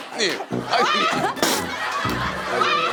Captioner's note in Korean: 푸우우웁